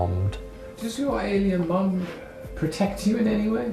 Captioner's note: voiceover